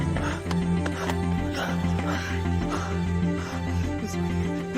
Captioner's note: Cassady panting